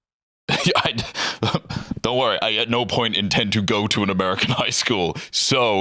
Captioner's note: laughs